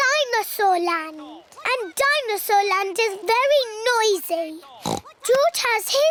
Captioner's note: oinks